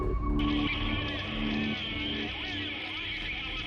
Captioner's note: man on radio